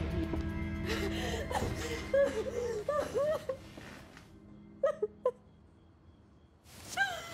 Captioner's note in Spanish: sollozos